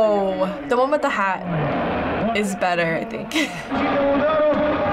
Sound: chuckles

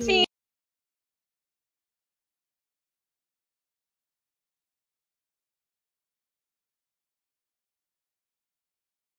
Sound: sound cuts out

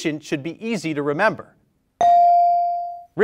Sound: bell rings

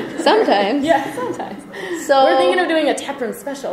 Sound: voiceover

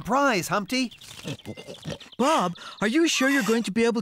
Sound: oinking!

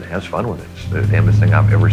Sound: engine rumbling

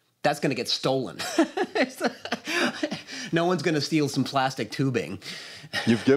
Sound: laughs

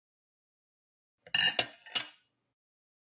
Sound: sound of cutlery

